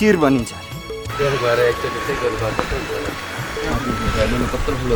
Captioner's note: indistinct conversation